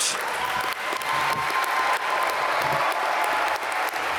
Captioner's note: applause